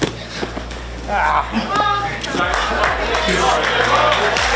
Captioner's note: man grunts; audience clapping; breathes heavily